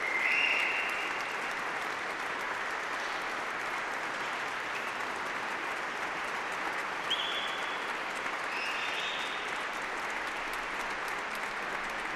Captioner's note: applause